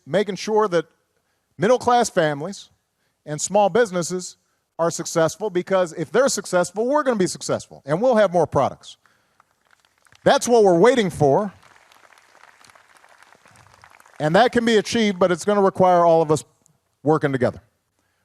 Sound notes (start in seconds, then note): 9.0 applause